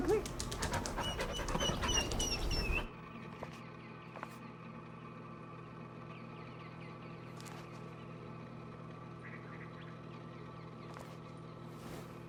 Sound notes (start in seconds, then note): 1.7 dog panting and whimpering